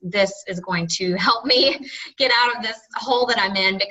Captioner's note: laughs